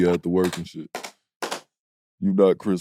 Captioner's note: Caron claps